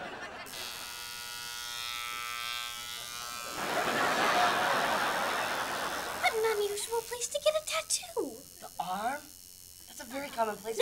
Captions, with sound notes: [buzzing] What an unusual place to get a tattoo. The arm? That's a very common place for--